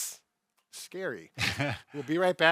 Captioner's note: chuckles